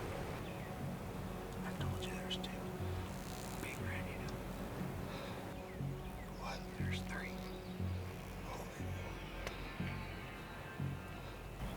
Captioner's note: whispering